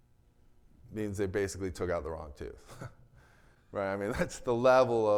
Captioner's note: chuckles